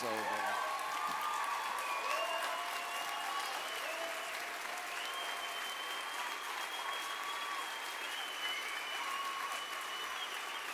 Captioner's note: applause